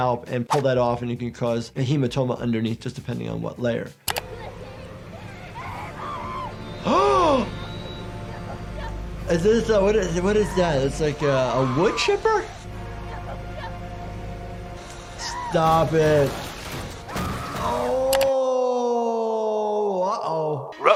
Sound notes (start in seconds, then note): 5.2 screams; 6.8 gasping; 8.2 whimpers; 11.2 victim 1 screaming; 17.1 victim 1 screams; 20.7 Scooby-Doo babbles